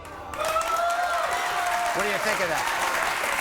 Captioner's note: crowd cheering